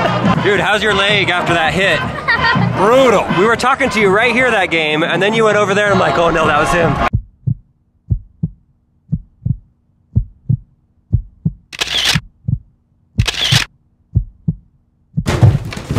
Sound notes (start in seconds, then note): 8.0 heart beat